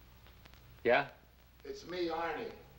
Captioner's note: voiceover